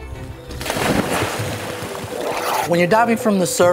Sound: water splashing

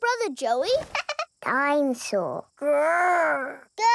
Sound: chuckles

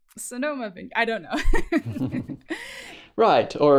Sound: laughter

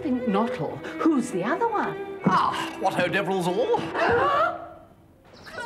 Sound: all gasp

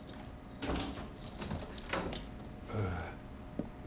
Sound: door clicks open

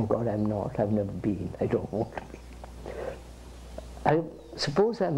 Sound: laughs

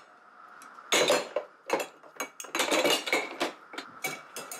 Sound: cups clatter

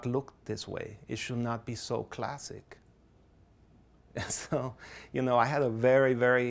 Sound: laughs softly

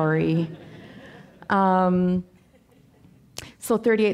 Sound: audience laughing

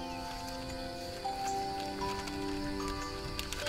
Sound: birds chirping

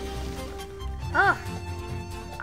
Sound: sigh

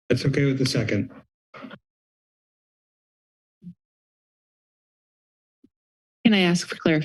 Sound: silence

